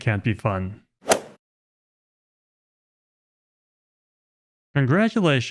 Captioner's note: golf swing sound effect